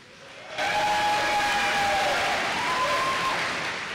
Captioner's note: applause